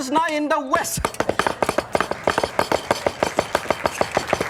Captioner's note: knife chopping